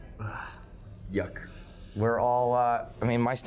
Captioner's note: sighs